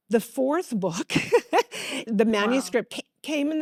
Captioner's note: laughs